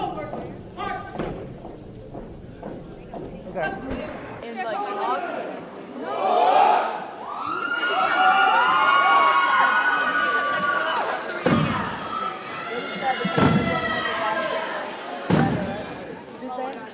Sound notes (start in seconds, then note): 6.0 group chants; 7.3 audience cheers and applauds; 13.0 cadets stomp rhythmically